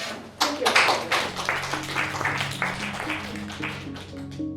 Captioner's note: applause